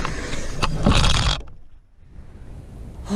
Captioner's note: wood hits pile in dumpster; sigh